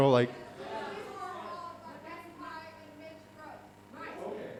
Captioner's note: speaker speaks faintly